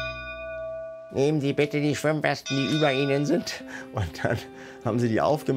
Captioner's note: mechanically